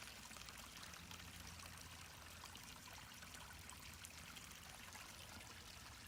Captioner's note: water trickling gently